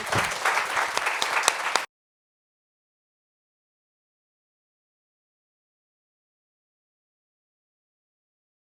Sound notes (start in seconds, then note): 0.0 people clapping